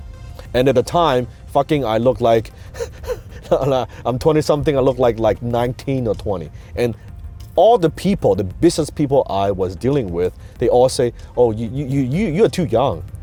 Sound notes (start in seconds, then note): 2.7 laughs